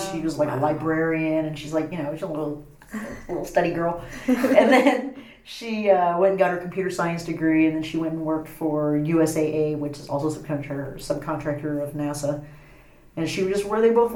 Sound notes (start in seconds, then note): 4.1 laugh